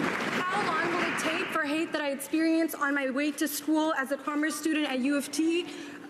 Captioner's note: cheering and Applause